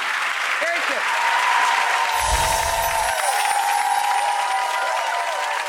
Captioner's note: audience cheers and applauds